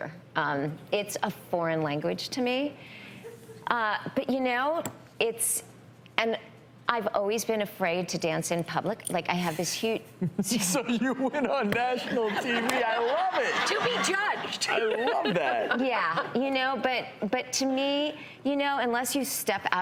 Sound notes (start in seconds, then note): 10.0 laughs; 12.1 everyone laughs